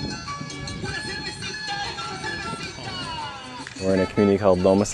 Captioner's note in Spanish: gente hablando